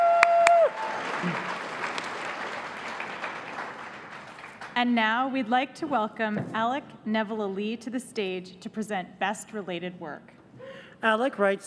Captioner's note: cheers and applause